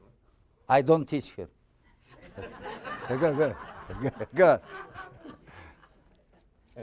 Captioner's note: audience laughing